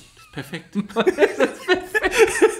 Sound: laughs

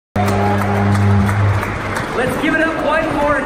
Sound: crowd applause

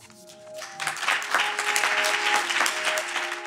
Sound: audience applause

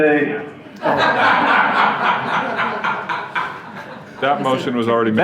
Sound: audience laughing

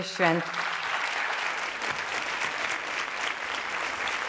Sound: audience applauds

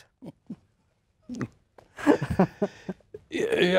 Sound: laughs

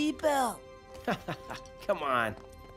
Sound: chuckling

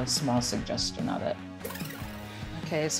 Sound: tape rewinding

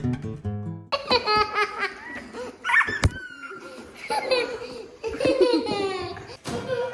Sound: hysterically Laughing

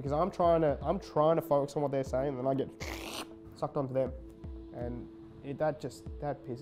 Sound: sucking air noise

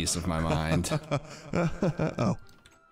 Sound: laughing

